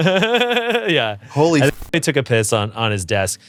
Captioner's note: Ian laughs